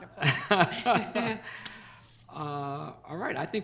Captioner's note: chairman laughs; laughs